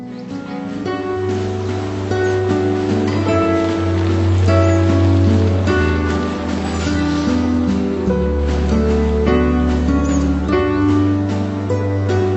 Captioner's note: applause